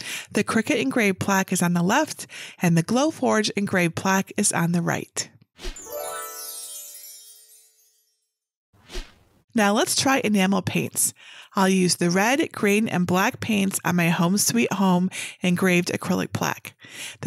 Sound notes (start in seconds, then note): 5.7 screen whooshing; 5.7 twinkling music